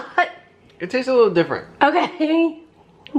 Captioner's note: laughing